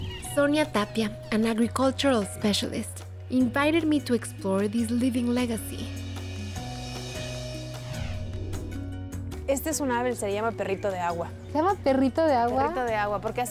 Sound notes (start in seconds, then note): 9.4 speaking Spanish